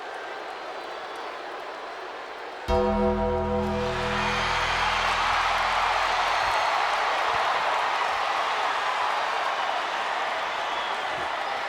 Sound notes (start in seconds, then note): 1.1 crowd boos; 2.7 bell tolls; 4.2 crowd cheers